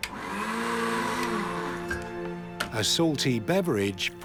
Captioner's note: blender whirring